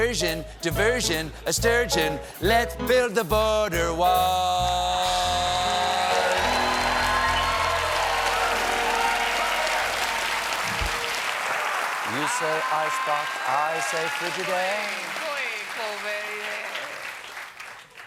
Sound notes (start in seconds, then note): 5.1 cheers and applause